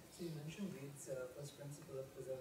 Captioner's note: voiceover